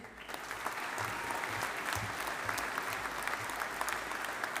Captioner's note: audience applauding